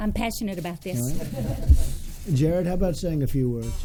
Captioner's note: laughter